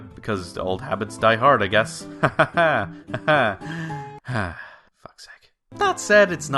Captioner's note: sigh